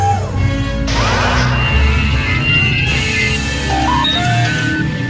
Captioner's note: beeping